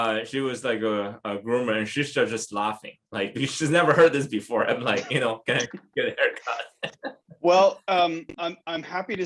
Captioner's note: laughter